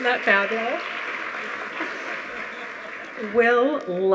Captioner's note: audience applauding